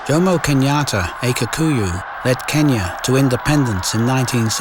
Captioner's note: cheering